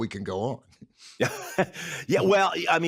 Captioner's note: chuckles